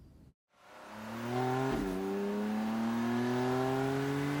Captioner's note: engine rumbling